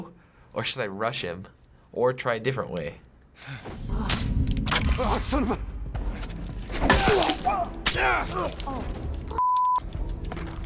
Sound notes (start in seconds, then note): 6.7 Joel grunting, Hunter groans